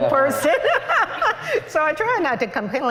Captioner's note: laughter